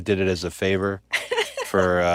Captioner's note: laugh